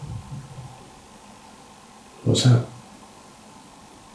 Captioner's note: footstep noises